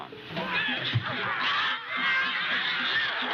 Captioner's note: screams